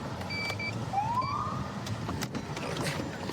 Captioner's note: siren chirps